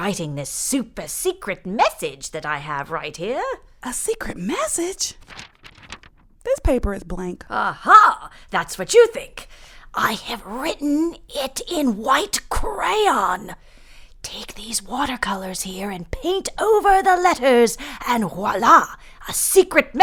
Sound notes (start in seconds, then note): 0.0 in British accent; 4.6 sound of paper crackling; 7.7 in British accent; 10.4 whispering